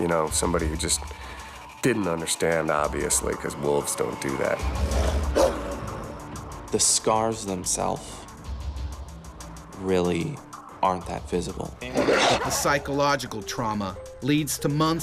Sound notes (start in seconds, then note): 4.6 growling; 12.7 voiceover